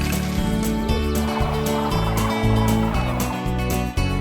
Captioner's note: cranes calling